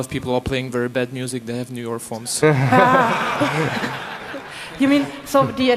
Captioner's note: laughter